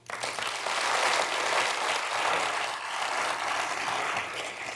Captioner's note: audience clapping